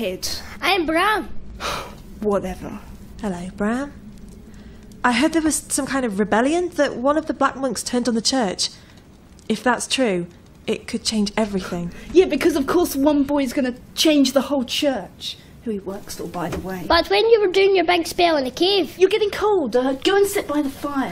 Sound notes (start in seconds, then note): 1.6 sigh